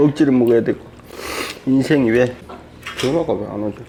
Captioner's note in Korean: 훌쩍